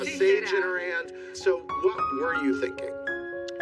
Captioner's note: indistinct chatter